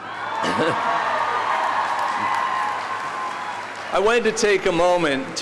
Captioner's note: audience cheering